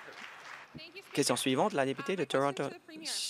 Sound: applause

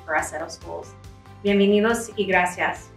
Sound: spanish

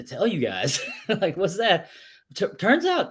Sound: laughs

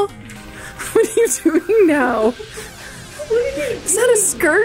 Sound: laughs

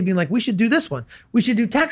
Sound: none

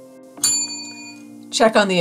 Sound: bell rings

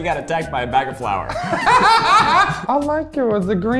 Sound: laughs

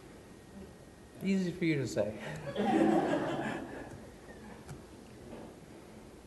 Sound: audience chuckles

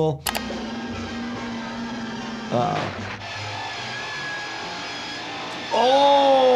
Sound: whirring

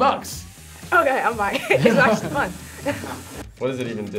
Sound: laughs

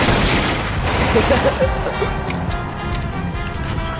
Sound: gunfire; gun clicks

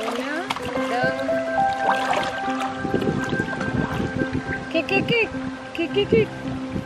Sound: woman speaking in foreign language

